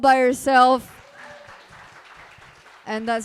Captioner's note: group applauding